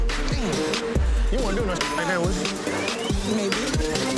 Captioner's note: beep